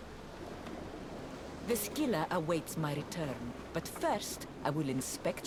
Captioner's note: none